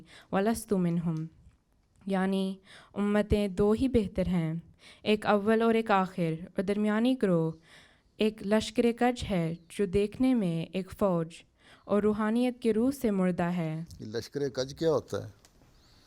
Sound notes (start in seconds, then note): 2.8 Urdu/ “Aina Kamalat-e-Islam, Ruhani Khazain”, Volume five, Pages 215-220